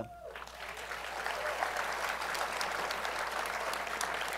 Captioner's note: applause